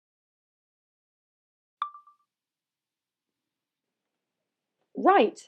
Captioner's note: chime of a phone recorder turning on